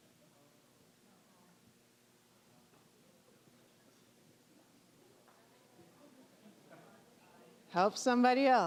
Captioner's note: general chatter